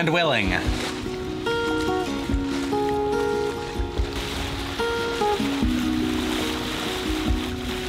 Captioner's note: soft music; water rushing